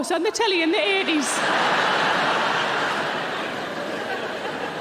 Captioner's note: audience laughing